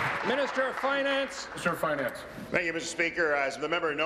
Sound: applause

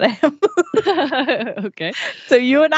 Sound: laughs

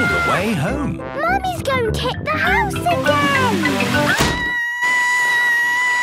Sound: Mummy Pig screaming

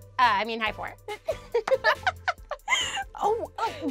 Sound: laughs

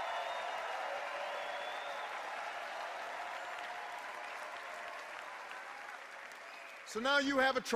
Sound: cheers and applause

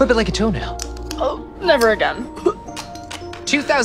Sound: gags

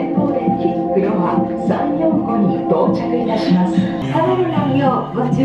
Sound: tranquil music; overhead announcement in Japanese

